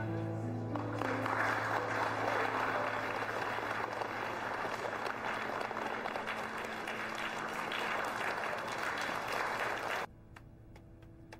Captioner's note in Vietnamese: Vỗ tay